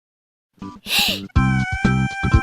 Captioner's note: inhale